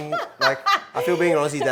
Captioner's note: laughs